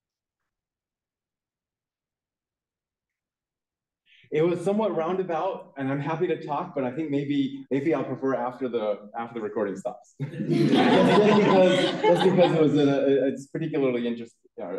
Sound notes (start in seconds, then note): 10.2 laughter